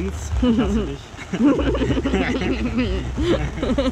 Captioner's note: devil laugh again